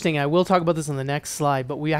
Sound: none

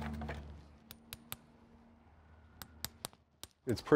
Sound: metal clanging

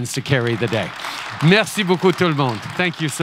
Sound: applause

